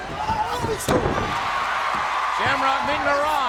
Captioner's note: body thuds